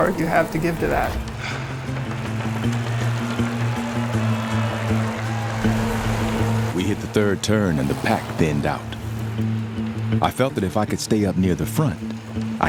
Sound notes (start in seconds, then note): 1.3 upbeat music; 6.8 voiceover